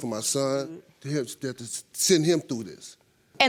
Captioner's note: stammering